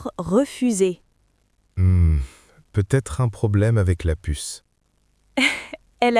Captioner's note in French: rire